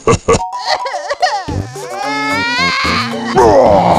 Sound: crying

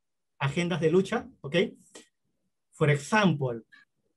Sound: spanish

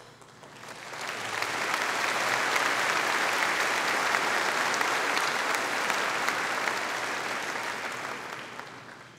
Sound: audience applauding

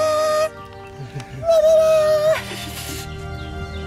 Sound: laughter

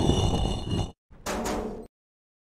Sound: sliding; clanging

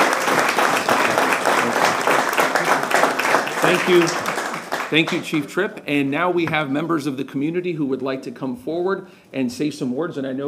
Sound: applause

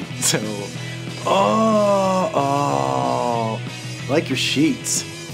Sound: moaning

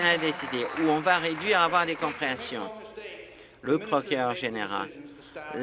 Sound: applause

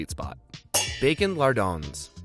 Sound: pans clanging

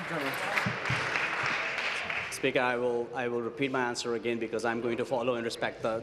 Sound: applause

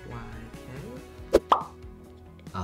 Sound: bubble pops

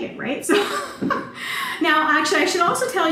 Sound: laughter

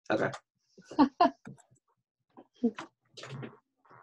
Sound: laughs

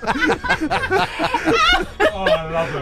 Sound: laughter; laughter continues

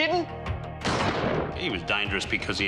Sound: gun fires

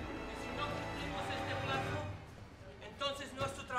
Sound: speaking in Spanish

